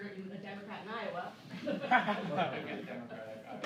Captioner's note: laughing